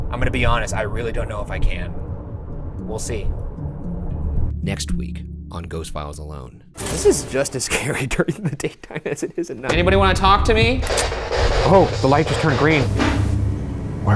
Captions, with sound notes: I'm gonna be honest, I really don't know if I can. We'll see. Next week on "Ghost Files: Alone." This is just as scary (ominous music) during the daytime as it is at night. Anybody wanna talk to me? (device crackling) Oh, the light just turned green. (object thuds)